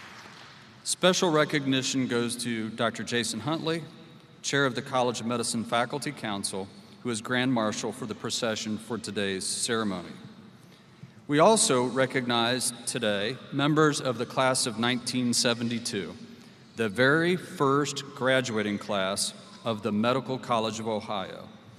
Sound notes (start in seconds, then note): 0.0 applause